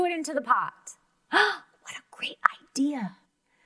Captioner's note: gasps